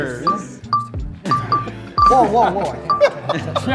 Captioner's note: bell dinging